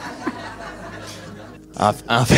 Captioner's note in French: rires